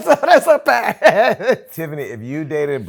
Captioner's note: laughter